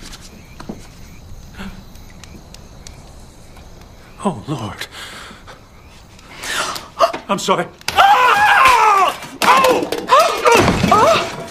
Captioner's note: gasps